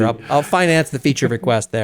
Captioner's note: laugh